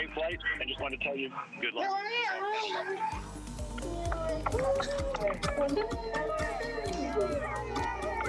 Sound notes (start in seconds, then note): 3.1 cheering